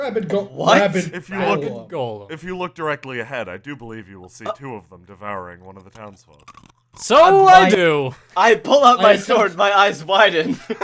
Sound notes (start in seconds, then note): 6.0 crunching